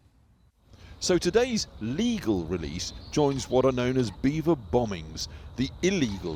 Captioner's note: voice-over